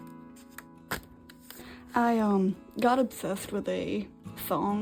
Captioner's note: slap :P